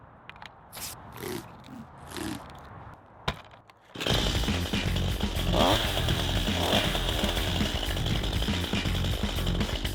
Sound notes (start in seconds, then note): 3.9 chainsaw revs